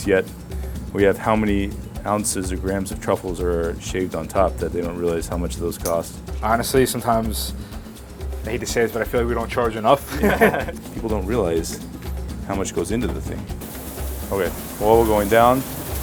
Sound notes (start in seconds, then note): 10.0 both laughing; 15.8 water sizzling